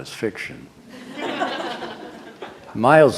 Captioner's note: laughter